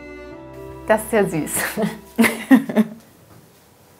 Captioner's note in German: Wohlwollendes Lachen